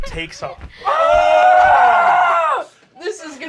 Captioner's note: whooshing; screaming